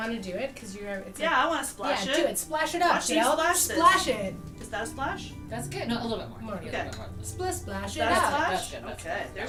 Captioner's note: none